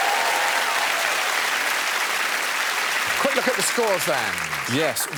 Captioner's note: cheers and applause